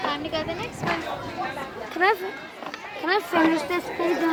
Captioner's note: children talking